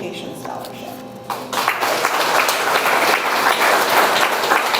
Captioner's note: audience applauds